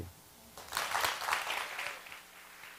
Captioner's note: applause